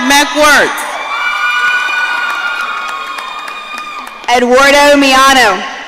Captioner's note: audience cheering